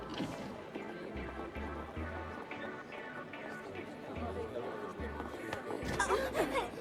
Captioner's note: crowd commotion